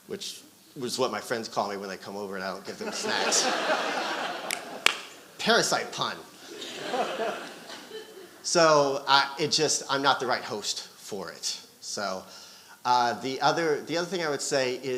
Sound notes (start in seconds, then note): 6.3 audience laughing